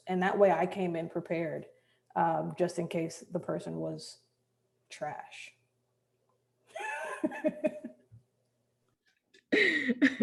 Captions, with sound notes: And that way I came in prepared, just in case the person was trash. (laughs)